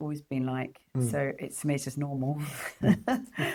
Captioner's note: laughs